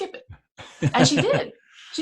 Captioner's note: laughs